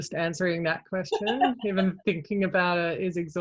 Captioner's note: laughs